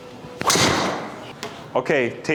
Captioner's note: club swishing and clicking; impact of ball thudding